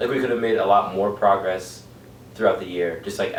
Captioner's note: none